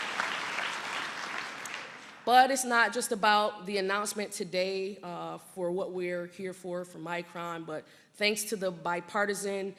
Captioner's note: applause